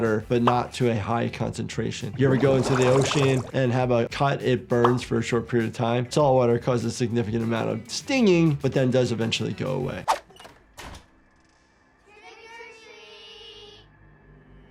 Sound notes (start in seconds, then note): 10.4 door creaking